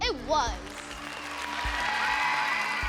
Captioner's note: applause; cheering